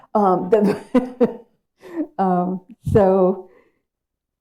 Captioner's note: audience laughs